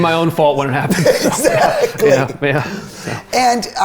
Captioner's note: laughing